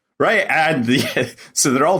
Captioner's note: laughs